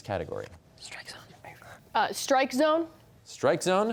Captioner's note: whispering